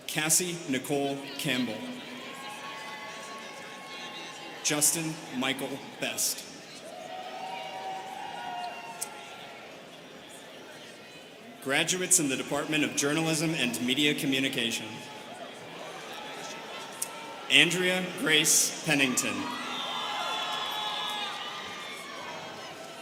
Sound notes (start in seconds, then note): 1.4 students cheering; 16.4 students chattering; 19.8 students cheering